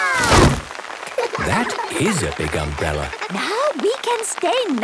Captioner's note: laughter